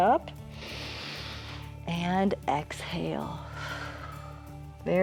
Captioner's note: exhales; inhales; exhales